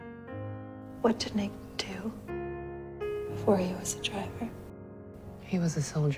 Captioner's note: voiceover